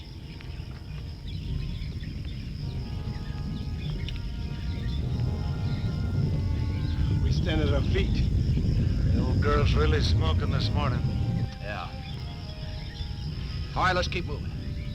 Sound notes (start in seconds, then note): 1.7 volcano rumbling